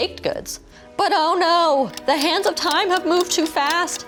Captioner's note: clock ticking